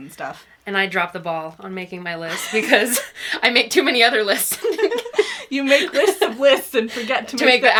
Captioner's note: laughs